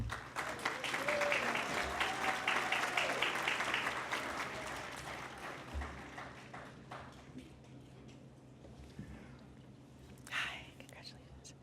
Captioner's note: applause